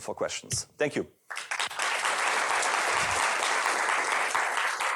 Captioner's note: applause